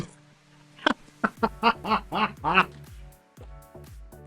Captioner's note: laughing